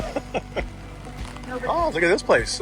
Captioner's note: laughs